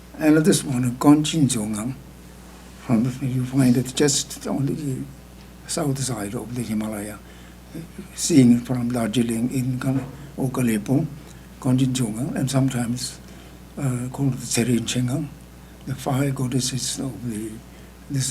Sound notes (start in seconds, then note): 1.5 speaking tibetan; 10.4 speaking tibetan; 14.1 speaking tibetan